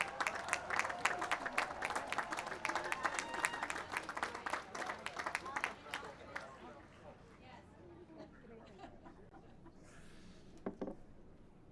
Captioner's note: cheering and applause